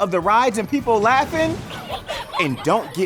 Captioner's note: people laughing